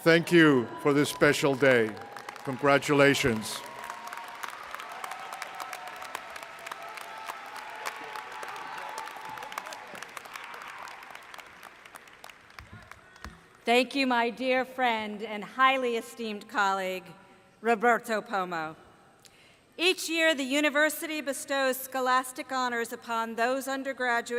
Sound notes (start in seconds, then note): 4.2 applause